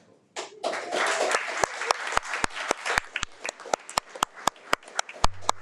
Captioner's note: audience applauding